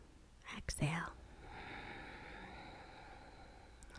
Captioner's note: exhaling